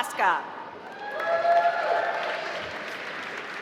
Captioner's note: applause